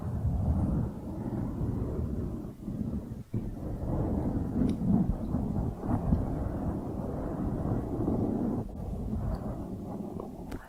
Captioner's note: mic scratching